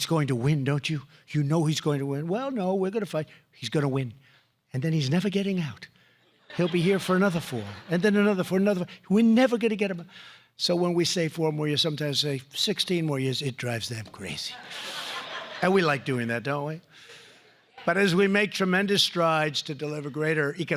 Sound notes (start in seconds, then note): 14.4 laughter